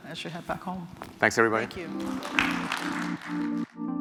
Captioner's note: applause